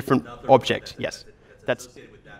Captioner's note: voiceover